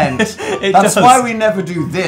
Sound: adorable laugh

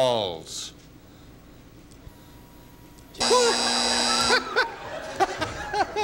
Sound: buzzer

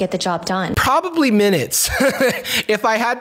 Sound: laughs

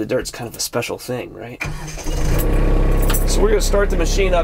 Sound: engine starts

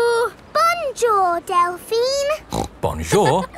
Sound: snorts

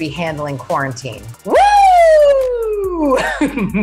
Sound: cheers loudly; laughs

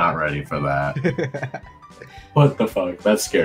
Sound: laughs

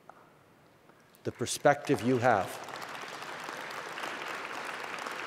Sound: applause

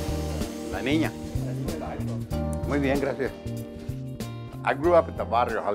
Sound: smooth music; foreign language

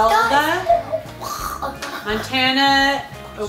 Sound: mimicking choking

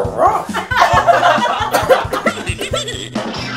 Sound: Scooby Gang laughing; sick lady coughing

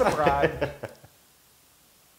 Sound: laugh

